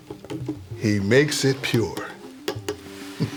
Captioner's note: chuckles